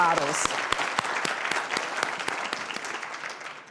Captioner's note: applause